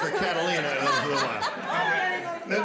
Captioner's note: laughter